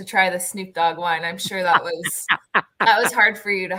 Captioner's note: laughter